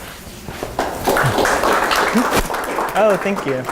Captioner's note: applause